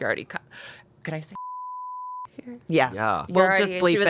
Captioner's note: beep